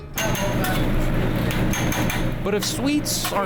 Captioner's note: spatula clangs